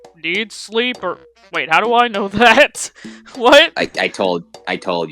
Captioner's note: chuckles